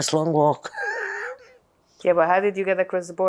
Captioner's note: laughing